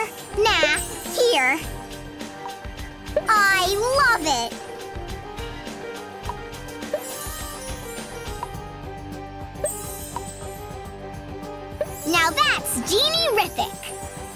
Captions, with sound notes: No, here! I love it! [sparkling sound] Now that's genie-rific.